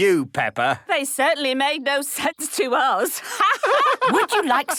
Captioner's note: laughter